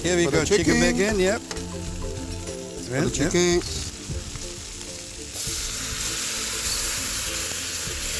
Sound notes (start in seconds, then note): 3.1 sizzling